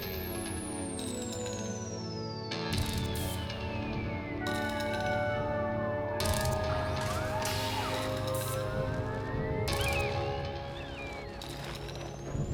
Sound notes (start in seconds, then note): 4.4 siren